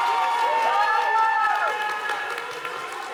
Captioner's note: audience applauding